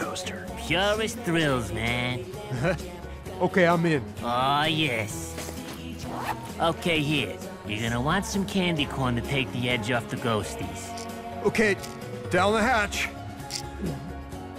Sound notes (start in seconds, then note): 2.4 chuckles; 5.4 zipper opens; 10.8 pills clattering; 13.4 swallows